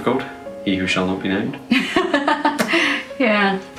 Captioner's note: laughs